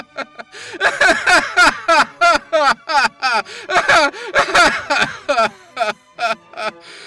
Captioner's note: extended laughter